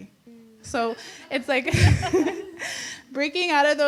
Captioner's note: laughs